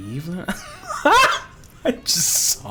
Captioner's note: laughs